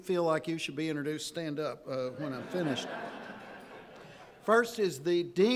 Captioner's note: audience laughing